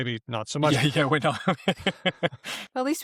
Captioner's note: laughs